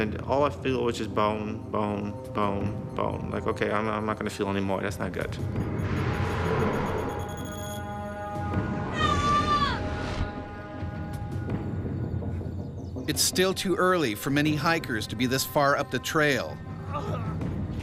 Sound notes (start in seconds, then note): 13.4 voiceover